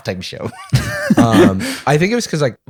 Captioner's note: laughter